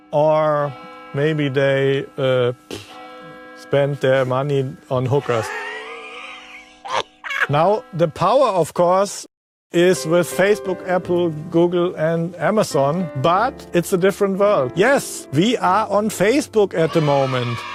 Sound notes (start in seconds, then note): 7.2 laughter